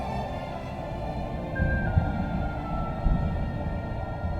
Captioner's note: wind howling